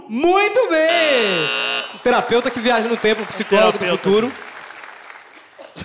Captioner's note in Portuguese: campainha